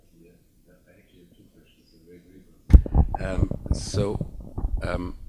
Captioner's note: speaks faintly